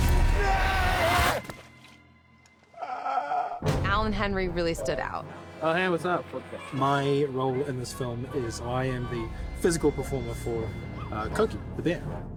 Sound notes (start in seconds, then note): 0.0 screams; 2.8 gasps